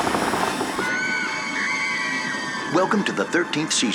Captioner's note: distant screams